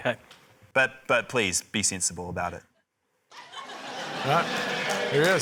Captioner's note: laughter; cheering, applause